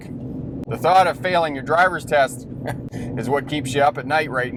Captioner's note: scoffs